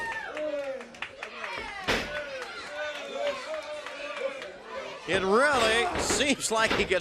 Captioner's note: crowd cheering